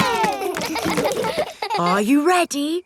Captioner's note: chuckles; kids laughing